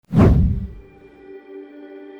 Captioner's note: whoosh sound